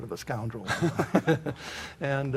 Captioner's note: laughter